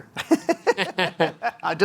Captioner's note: laughs